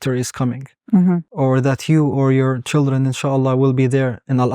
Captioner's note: speaking Arabic